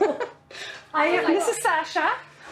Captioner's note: laughs